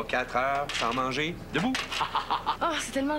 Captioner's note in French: Rire